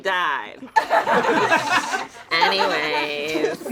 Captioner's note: all laugh